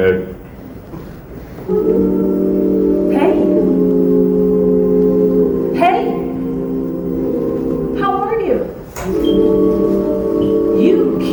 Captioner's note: oooooooooooh